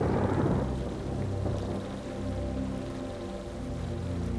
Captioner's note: thunder booms; mysterious music